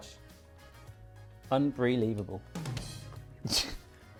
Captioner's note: laughs